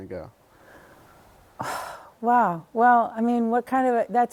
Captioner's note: sighs